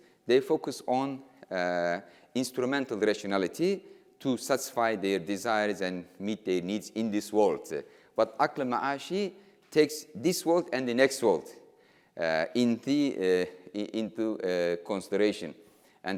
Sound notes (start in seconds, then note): 8.4 speaking in foreign language